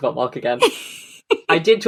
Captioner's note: laughs